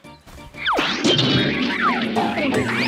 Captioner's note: doink!; bonk!; poink!; boink!